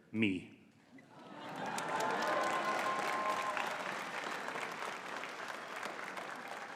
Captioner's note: audience cheering and clapping